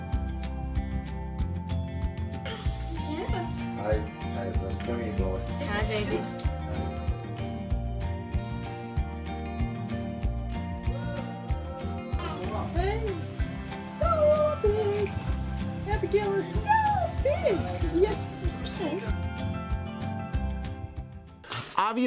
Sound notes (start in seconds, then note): 6.8 positive upbeat music continues; 12.4 laughs